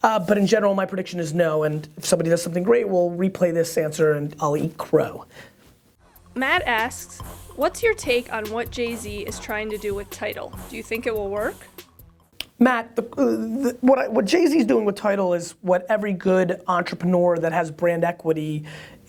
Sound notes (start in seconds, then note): 6.5 voiceover